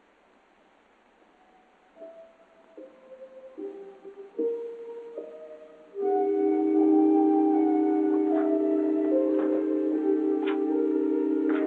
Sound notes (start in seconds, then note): 0.1 mysterious music; 9.0 door opening